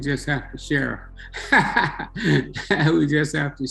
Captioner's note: laughing